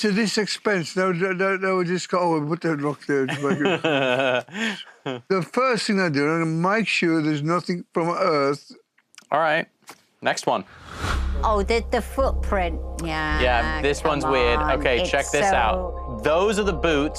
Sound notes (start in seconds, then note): 3.3 laughs